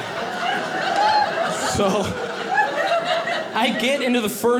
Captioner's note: audience laughing